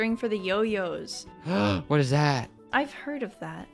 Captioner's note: gasp